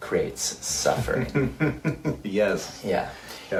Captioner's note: laughs